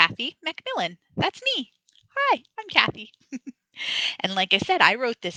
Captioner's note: laughs